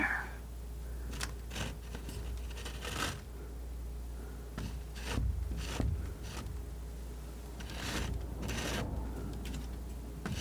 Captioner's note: scratching